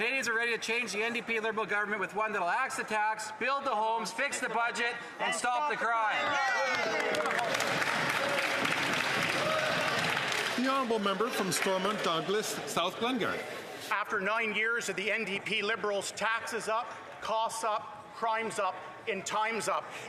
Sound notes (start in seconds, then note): 9.5 some Applause